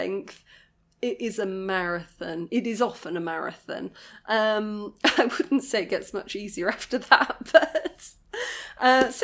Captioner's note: laughing